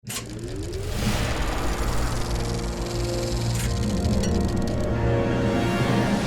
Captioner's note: light dramatic music; film reel ticking